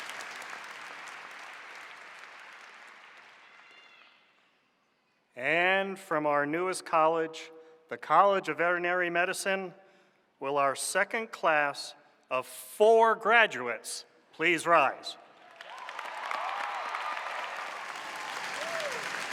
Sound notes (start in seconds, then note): 15.4 applause